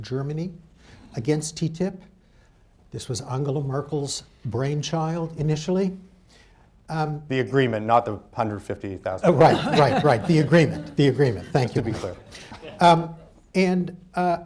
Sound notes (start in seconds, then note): 9.2 laughter